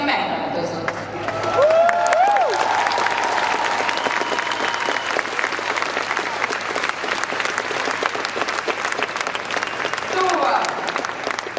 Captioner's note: applause